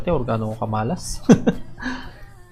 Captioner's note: haha